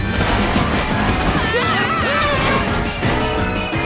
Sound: screaming

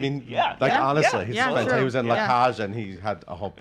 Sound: laughs

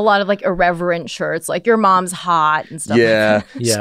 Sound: laughs

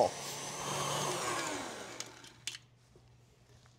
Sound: mixer stops

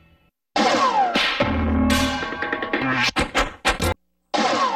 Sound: cartoon sounds; cartoon sounds continuing

